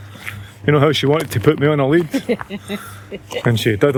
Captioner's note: laughter